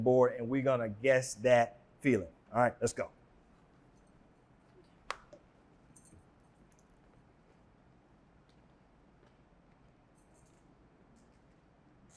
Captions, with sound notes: And we're going to guess that feeling. All right, let's go. (silence)